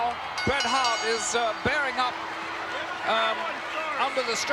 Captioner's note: bell rings